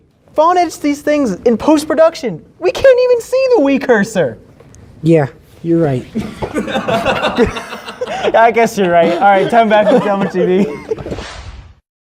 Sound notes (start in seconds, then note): 6.2 laughter